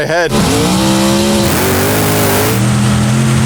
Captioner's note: throttle growling; engine purring